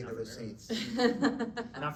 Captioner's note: laughing